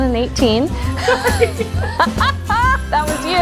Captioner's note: laughing